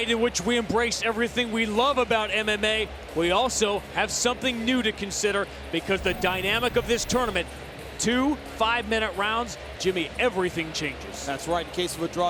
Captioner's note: bell